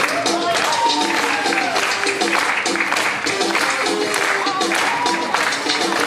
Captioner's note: audience clapping rhythmically